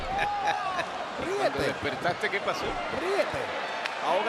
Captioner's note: laugh